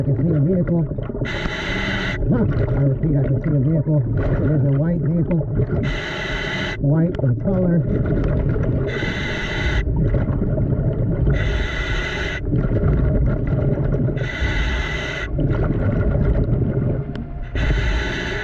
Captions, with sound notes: I can see the vehicle, I repeat, I can see the vehicle. It is a white vehicle, white of color. (mouthpiece hissing) (suspenseful music)